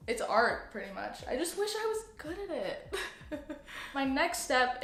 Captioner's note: laughs